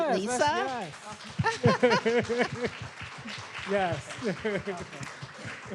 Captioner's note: audience applauds